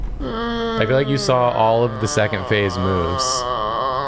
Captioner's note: groan